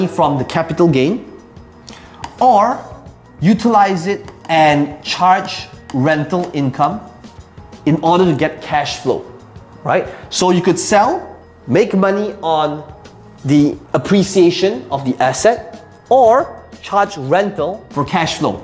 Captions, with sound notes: from the capital gain, or utilize it (tapping marker) and charge rental income in order to get cash flow, right. So, you could sell, make money on the appreciation of the asset, or charge rental for cash flow.